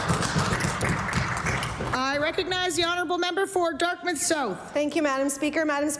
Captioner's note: applause